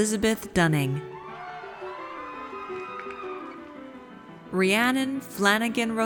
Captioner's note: audience cheers